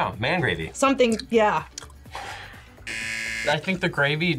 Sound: buzzer rings

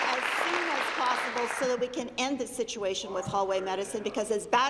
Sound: applause

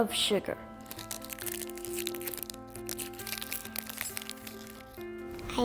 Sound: wrapper crinkling

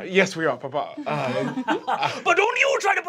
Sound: laughter; laughing

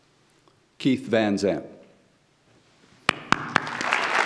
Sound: audience applauds; claps

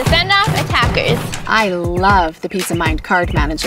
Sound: birds chirping

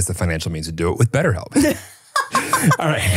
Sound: laughing

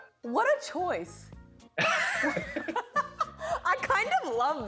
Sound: both laugh

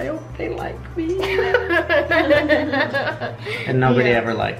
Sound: laughter

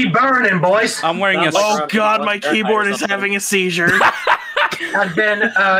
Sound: laughs

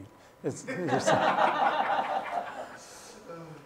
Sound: laughter

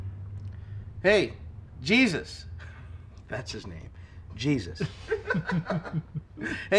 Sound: laughs; chuckles

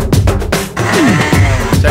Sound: bike revving

